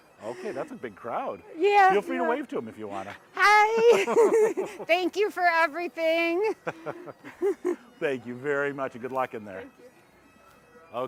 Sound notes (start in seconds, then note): 3.4 laughing